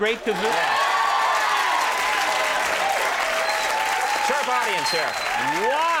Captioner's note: audience cheers